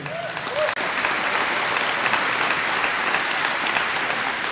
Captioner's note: applause